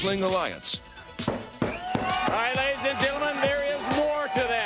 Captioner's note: crowd cheering